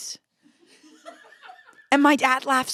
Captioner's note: laughter